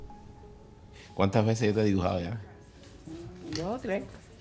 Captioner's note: speaks in foreign language